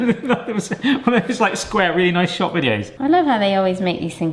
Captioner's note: laughs